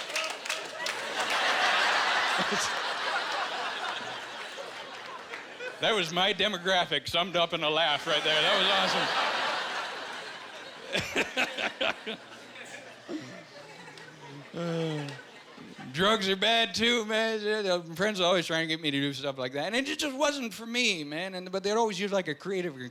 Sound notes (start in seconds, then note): 0.0 man laughing loudly; 0.4 audience laughing; 10.2 laughing; 14.2 sighing